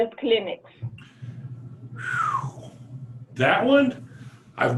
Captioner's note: whistles